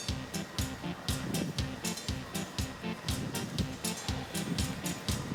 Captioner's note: lauaughghteter